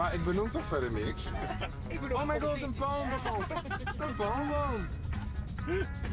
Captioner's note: laughter